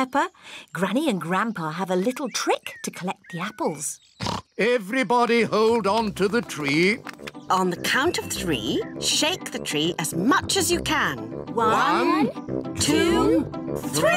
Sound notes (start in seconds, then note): 4.2 oinks